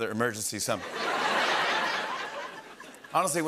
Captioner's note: laughter